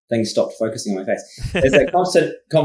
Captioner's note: laughs